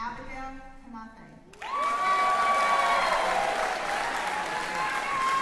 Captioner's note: cheering